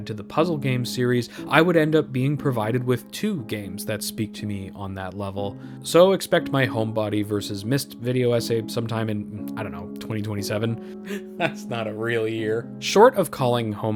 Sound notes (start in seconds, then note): 11.1 laughing